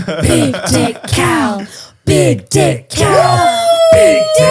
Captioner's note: whispers; all chanting; man exclaims